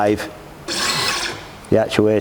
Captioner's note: device whirs